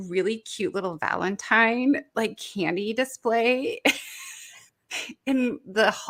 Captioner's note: laughs